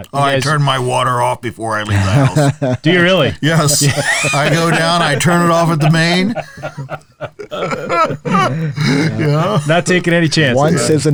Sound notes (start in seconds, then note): 6.6 laughing